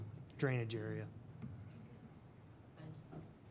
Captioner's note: speaking faintly